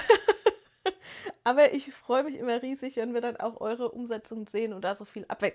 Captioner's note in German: gelächter